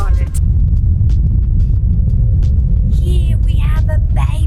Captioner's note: wind rumbling